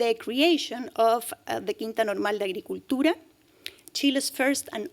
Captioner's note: speaking spanish